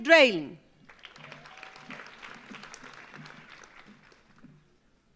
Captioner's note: audience applauds